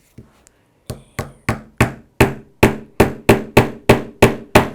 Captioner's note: hammer banging